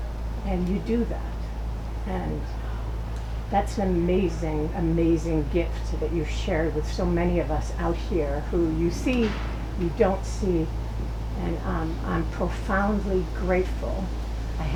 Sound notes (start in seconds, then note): none